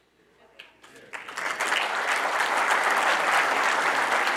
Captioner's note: audience applauding